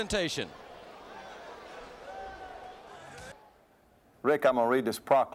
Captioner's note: crowd chatter